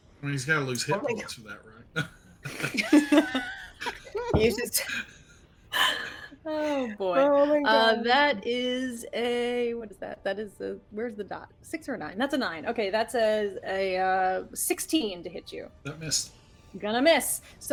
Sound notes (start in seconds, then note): 2.4 both laugh